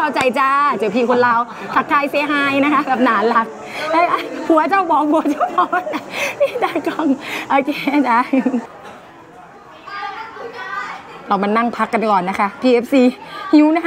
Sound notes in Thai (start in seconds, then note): 4.8 เสียงหัวเราะ